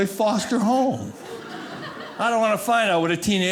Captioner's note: audience laughing